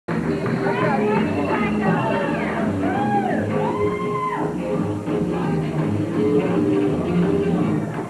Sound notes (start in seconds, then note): 1.1 cheers